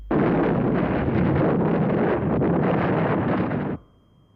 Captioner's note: loud explosion